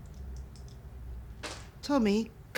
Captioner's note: dice clattering